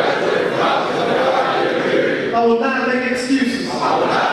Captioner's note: audience speaking